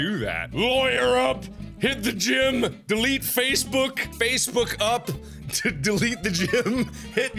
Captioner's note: sarcastically